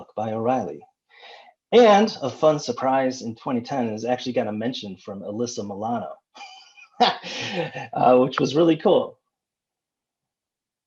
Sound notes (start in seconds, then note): 6.4 laughs